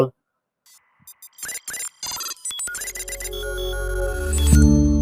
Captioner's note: computer buzzing; three-note tech music; logo swooshing